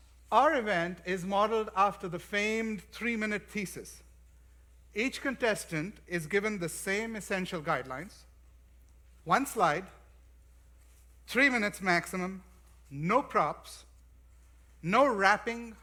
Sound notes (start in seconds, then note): none